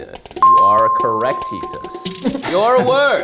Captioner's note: bell rings